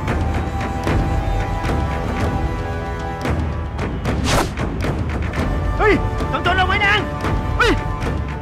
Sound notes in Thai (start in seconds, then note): 4.3 เสียงลูกดอก